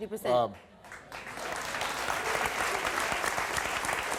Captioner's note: audience claps